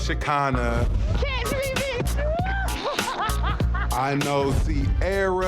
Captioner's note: laughing; upbeat funky music